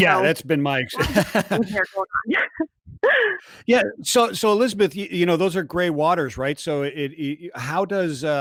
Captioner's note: chuckles